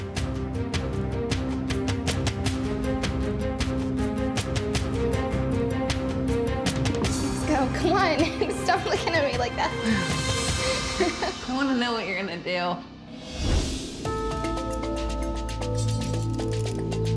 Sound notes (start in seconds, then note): 10.4 laughs; 12.9 soft tense music